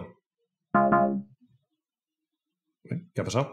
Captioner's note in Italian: suono di errore